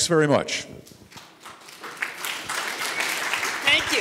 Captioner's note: audience applauding